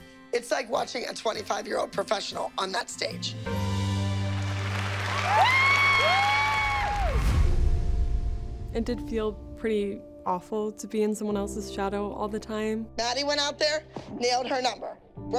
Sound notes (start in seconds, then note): 3.6 music fades; 4.1 cheers and applause